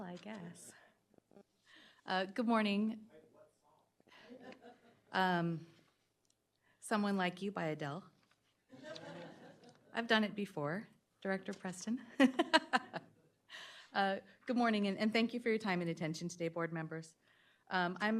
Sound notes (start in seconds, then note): 4.1 chuckling; 8.7 chuckling